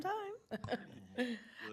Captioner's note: laughs